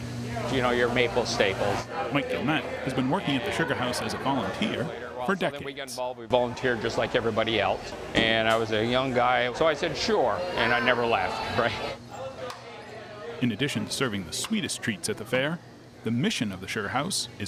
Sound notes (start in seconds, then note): 12.1 visitors chattering